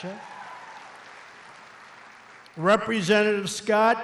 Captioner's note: applause